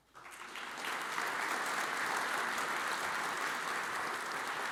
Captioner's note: audience applauds